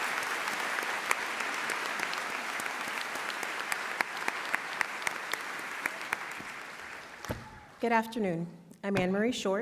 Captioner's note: applause